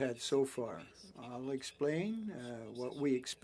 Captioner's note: speaking French